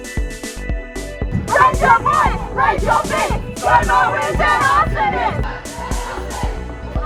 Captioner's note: chanting